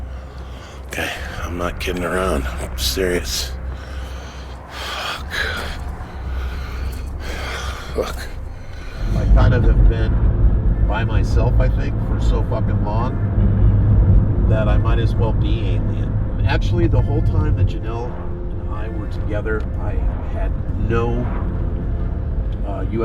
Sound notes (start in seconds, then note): 4.3 whispering